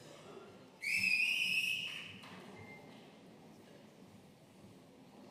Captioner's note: audience member whistling